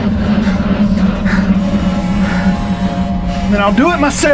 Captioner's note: systems buzzing